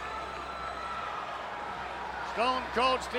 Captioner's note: audience cheers